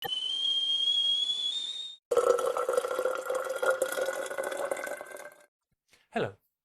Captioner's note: sound of kettle boiling and water pouring